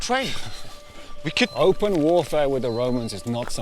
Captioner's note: chuckles